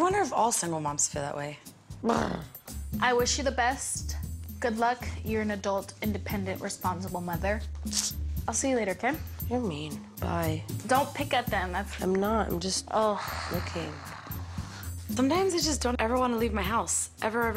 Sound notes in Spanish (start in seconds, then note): 2.0 grunts